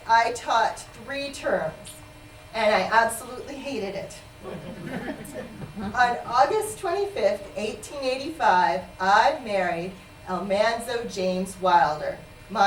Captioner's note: laughter